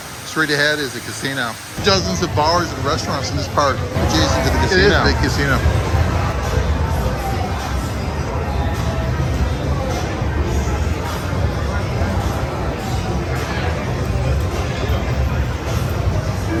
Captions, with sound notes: Straight ahead is the casino. Dozens of bars and restaurants in this park, adjacent to the casino. (people chattering) (upbeat music)